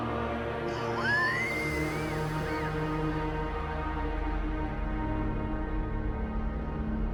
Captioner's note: wheezes